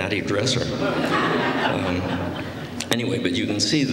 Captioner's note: laughter